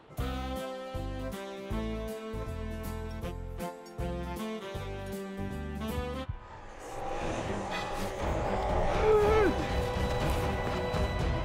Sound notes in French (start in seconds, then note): 6.3 cris inquiétants